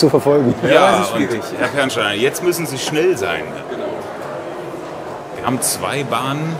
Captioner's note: laugh